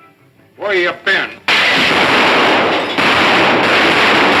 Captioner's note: guns firing